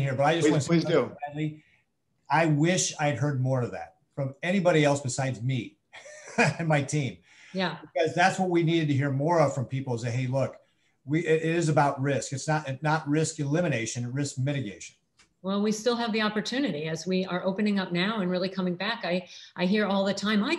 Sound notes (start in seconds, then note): 6.0 laughs